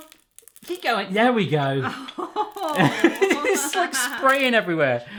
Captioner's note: excitedly laughing